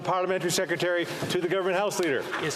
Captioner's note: speaking French